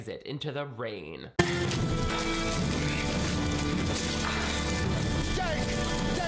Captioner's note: dramatic music; rain pattering